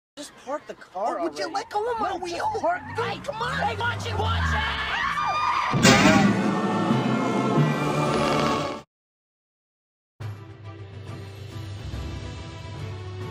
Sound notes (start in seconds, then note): 4.4 both Scream; 5.8 collision sound